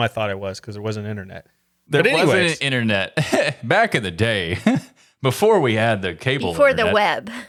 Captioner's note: laughing